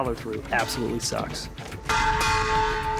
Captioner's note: banging